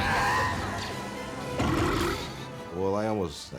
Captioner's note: burp